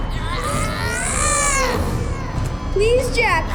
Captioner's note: Jack groans